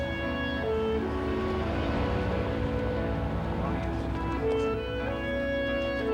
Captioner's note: none